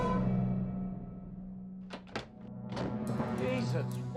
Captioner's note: door opens